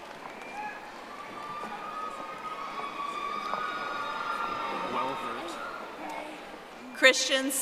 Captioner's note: audience applauding